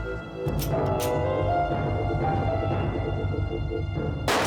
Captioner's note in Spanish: ruido al enrastrillar el arma